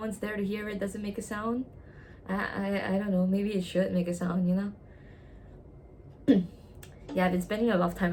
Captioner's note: clears throat